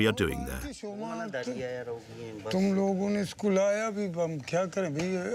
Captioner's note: men speaking foreign language